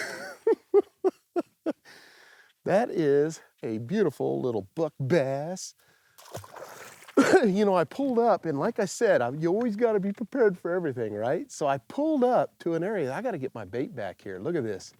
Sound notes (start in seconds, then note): 0.0 laughs; 7.1 coughs